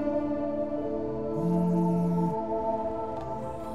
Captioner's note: Phone buzzing